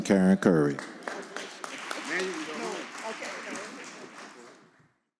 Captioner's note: audience applauding